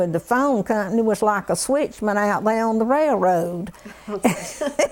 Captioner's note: laughter